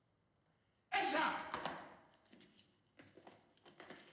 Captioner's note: shouts in turkish